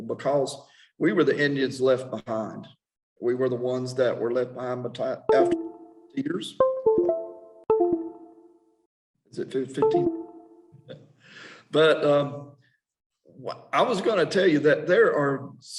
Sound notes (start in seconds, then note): 5.2 computer sounds drown out dialogue